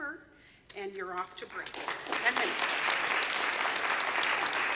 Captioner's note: applause